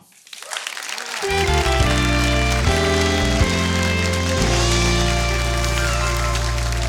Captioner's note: audience clapping; intro music